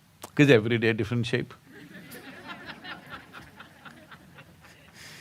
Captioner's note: laughter